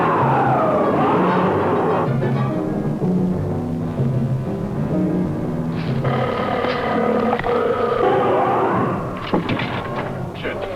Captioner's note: roaring